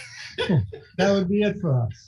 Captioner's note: laughing